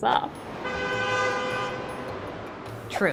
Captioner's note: car horn honks